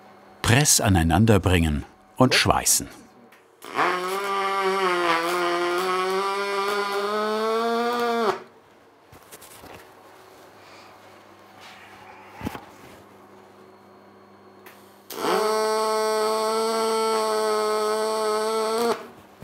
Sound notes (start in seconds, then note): 3.9 machine noise